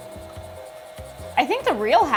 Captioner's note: relaxing music continues; heat gun whirring